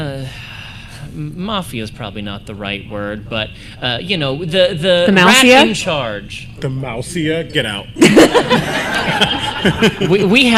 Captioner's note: laughter